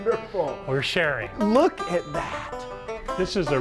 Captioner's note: laughs